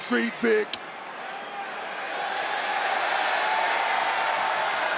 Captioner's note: crowd cheering